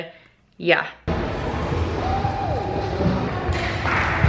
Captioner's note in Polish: Dźwięki z zajęć